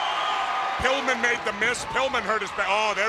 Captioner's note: crowd cheering